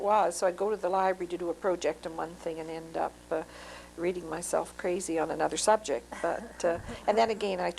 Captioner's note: laughter